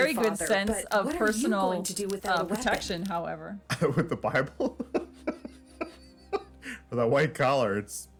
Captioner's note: laughs; laughs